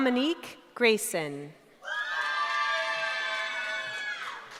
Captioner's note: cheering